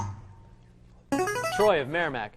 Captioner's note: ringer